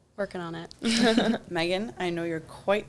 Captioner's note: both laugh